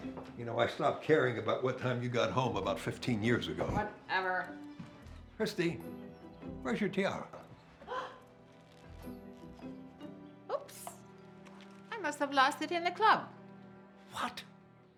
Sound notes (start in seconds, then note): 7.8 gasps